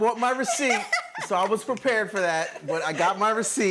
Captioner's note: laughter